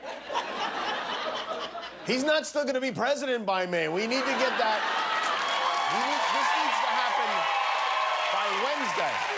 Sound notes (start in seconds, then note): 2.5 laughter; 4.1 cheers and applause